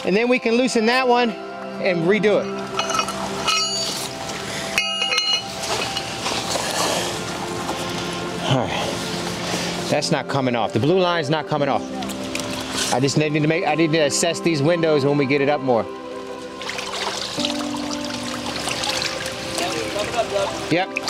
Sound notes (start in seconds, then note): 2.6 rigging clanging; 16.1 water gurgling